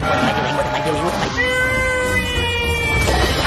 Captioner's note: raz yells